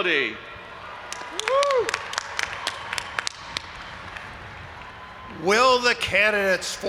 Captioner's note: audience applauding and cheering